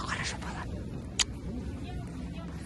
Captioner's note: kiss